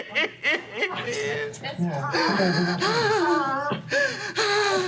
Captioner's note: crying